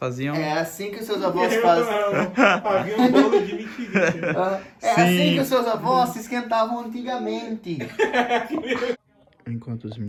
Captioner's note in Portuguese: risos